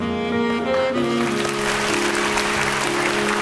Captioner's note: applause